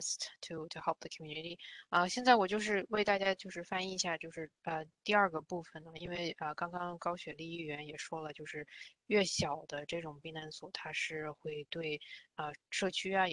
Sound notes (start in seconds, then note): 1.8 speaks in Mandarin